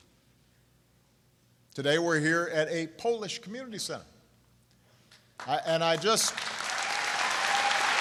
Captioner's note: applause